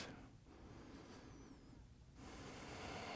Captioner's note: breathes out; breathes in